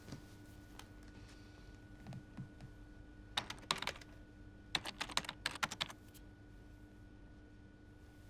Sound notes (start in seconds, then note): 3.4 keyboard clicking